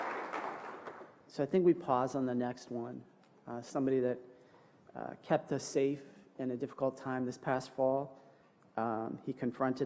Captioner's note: applause